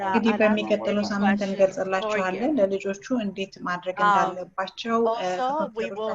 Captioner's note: interpreter speaks in foreign language